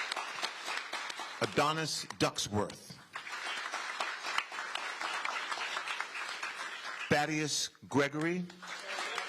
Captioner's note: applause